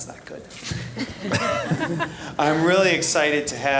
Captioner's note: group laughing